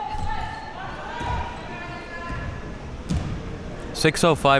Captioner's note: spectators shouting